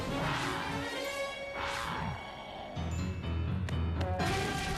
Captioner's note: growling